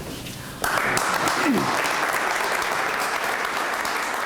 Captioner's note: audience applauding